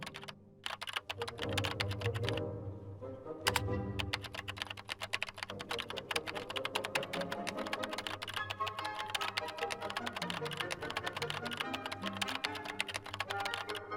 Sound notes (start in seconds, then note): 0.6 keys clacking